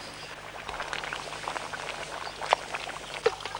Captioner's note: stew bubbling